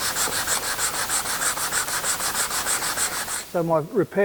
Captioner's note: sanding sound